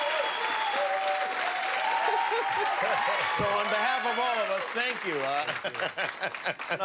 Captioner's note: cheers and applause